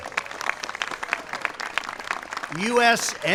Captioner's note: applause